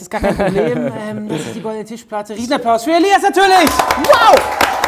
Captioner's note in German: Applaus; Jubel